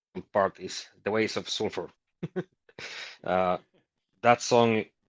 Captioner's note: chuckles